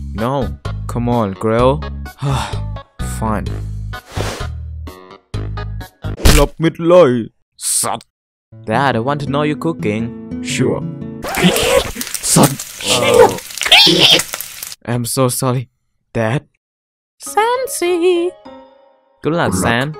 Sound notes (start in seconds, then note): 11.2 lots of swear and scream